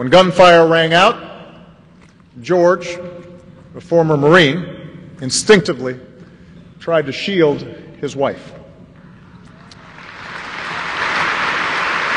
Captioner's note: applause